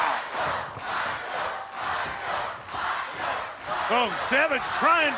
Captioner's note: crowd cheering